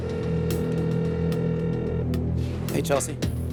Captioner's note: phone ringing